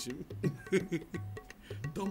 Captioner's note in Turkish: gülme sesi̇